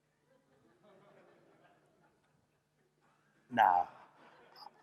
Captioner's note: laughter